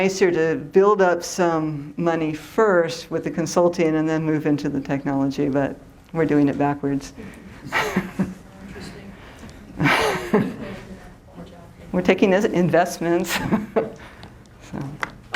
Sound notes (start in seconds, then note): 9.7 chuckles